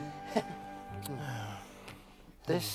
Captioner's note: sighs